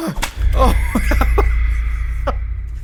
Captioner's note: laughter